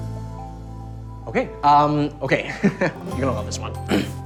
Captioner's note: laughs nervously